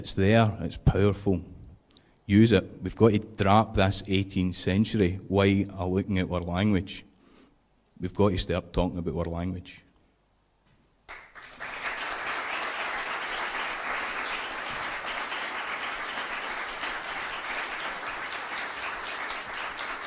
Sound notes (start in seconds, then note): 11.0 applause